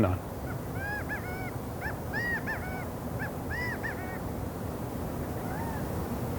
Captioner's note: gambel's quail calling